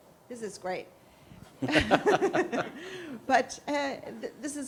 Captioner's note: laughter